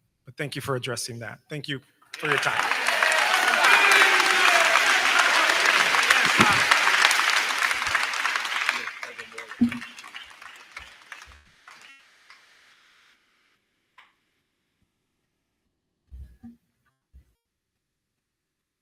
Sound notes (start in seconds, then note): 2.1 crowd clapping; 2.1 crowd cheering